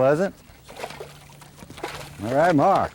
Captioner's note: splash